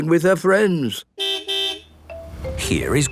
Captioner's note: car beep